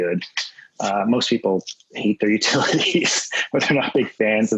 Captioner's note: laughs